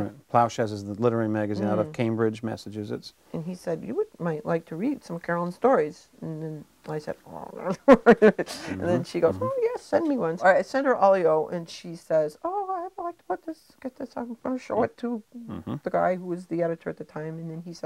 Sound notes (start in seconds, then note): 7.6 chuckling